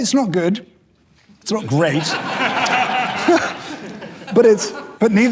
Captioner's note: audience laughing